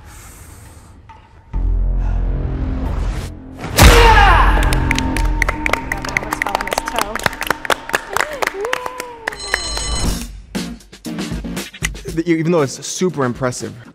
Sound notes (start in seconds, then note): 2.0 breathes deeply; 11.2 upbeat music begins